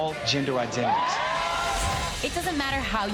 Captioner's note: cheers